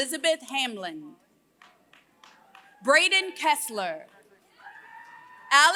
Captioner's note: applause; applause